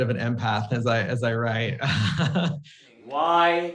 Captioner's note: laughs